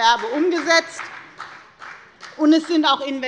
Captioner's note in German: Beifall bei der FDP